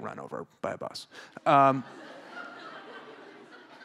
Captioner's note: laughter